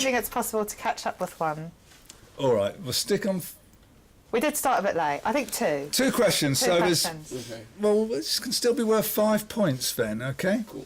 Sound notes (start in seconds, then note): none